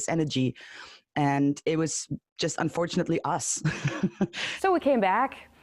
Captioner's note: rindo de nervoso novamente